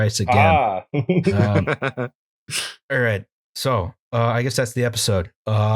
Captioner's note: laughter